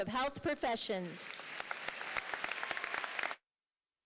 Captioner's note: applause